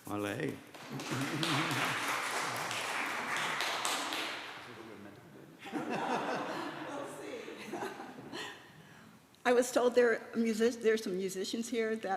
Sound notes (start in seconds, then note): 0.6 applause; 4.6 chatter